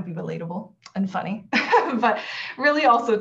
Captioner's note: laughs